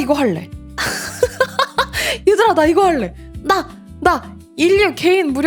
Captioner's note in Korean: 웃음